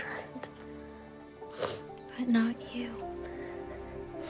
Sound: Palmyra sniffling

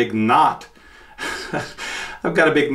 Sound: laughs

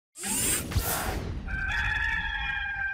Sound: robotic sound effects; cock crowing

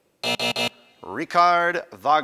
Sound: buzz

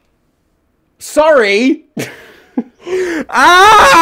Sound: laughter

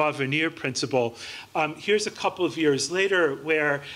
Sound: none

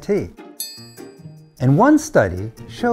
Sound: bell ringing

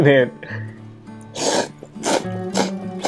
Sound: slurps

